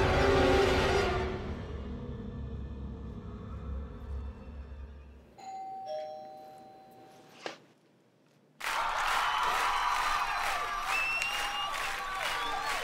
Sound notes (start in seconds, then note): 5.4 doorbell rings; 8.6 audience clapping and cheering